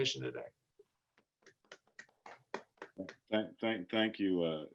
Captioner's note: clapping softly